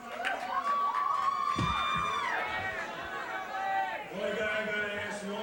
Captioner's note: fans cheer